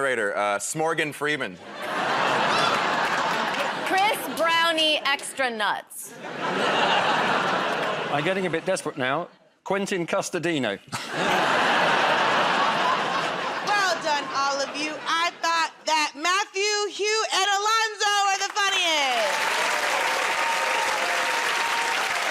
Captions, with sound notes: The narrator S'moregan Freeman. -Chris Brownie extra nuts. [ Audience groans ] -I'm getting a bit desperate now. Quentin Custardino. [ Laughter ] -Well done, all of you. I thought that Matthew, Hugh, and Alonzo were the funniest. [ Cheers and applause ]